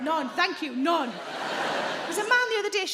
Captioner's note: audience laughing